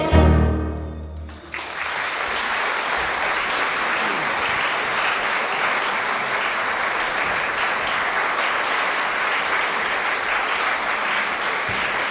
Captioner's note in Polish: oklaski